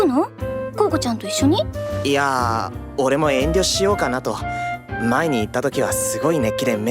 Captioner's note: none